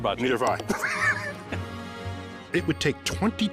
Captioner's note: both laugh